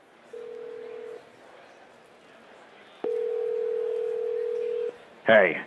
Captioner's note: telephone ringing